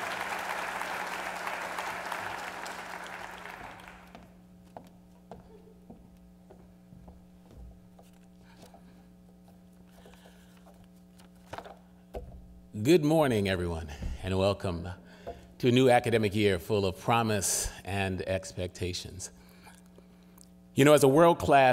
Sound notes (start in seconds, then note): 1.5 applause